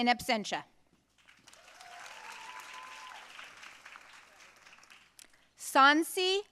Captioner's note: audience cheering and applauding